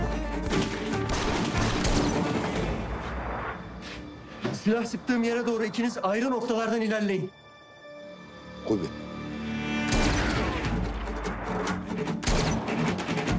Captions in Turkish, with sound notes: Silah sıktığım yere doğru ikiniz ayrı noktalardan ilerleyin. Kubi. (Silah sesleri)